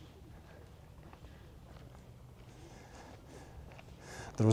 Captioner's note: birds chirping